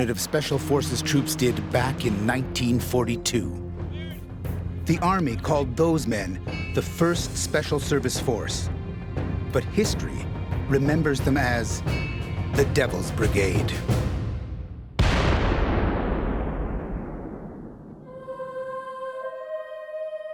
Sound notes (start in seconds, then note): 12.7 explosion; 15.4 ominous music